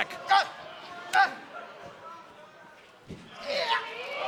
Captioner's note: shouting